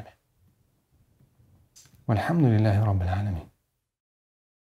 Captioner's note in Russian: Говорит на арабском